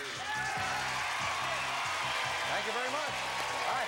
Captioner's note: audience applause